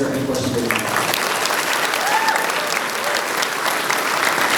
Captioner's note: audience applauding